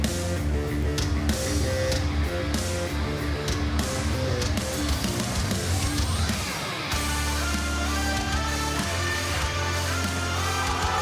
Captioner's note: crowd cheering